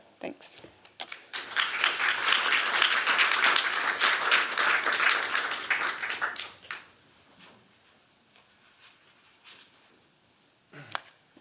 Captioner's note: applause